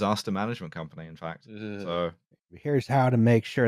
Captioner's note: verbal shudder